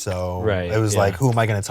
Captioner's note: lip flutter sound